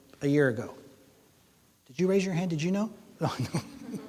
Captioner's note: chuckles